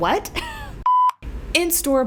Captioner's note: blooper beep